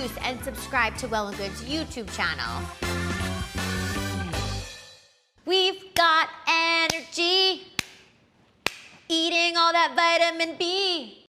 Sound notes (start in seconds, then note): 2.7 upbeat music; 8.6 claps on beat